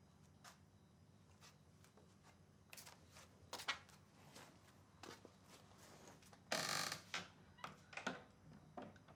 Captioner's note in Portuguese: silêncio; chinelos arrastando